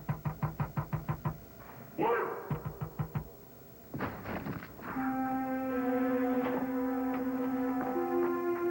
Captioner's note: knocking